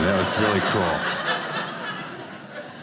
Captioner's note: audience laughing